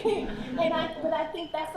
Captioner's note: laughter